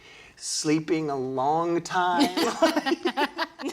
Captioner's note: laughter